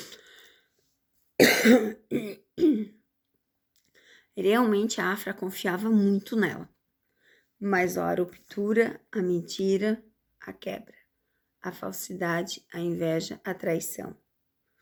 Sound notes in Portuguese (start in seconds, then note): 1.4 tosse; 1.4 limpando a garganta